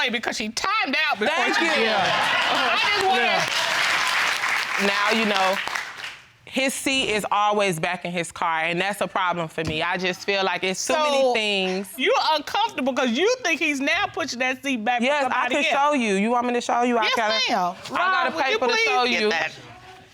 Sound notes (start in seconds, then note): 3.5 laughter and applause